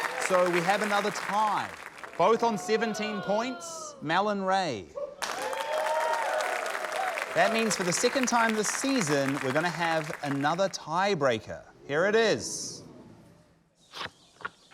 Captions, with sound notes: So, we have another tie. Both on 17 points, Mel and Ray. (CHEERING, APPLAUSE) That means for the second time this season, we're gonna have another tie breaker. Here it is.